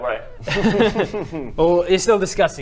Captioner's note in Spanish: risa siniestra